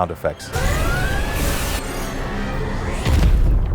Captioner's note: phaser blasts and red alert siren